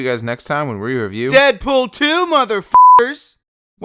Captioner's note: beep